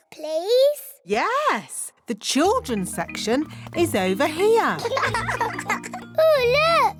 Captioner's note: laughter